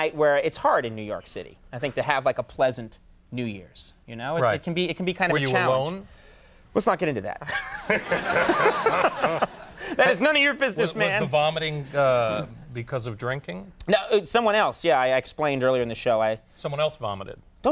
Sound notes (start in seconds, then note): 7.7 audience laughs